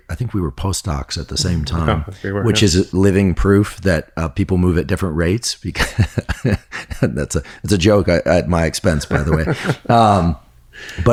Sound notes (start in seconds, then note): 6.2 laughs; 8.9 laughing